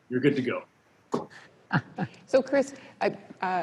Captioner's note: chuckles